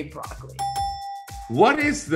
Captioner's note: dinging